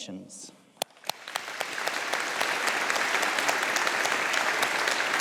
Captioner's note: audience applauding